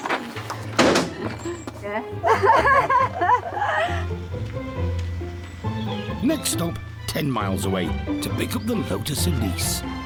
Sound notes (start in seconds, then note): 0.6 laughter